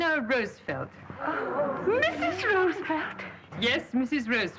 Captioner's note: women exclaim